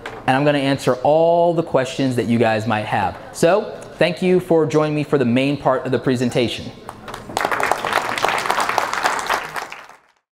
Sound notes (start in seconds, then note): 6.9 audience applauds